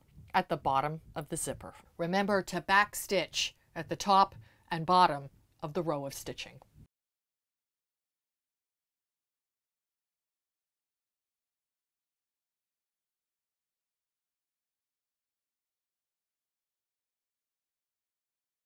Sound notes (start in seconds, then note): 6.8 no Sound Present